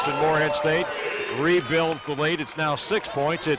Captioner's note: cheers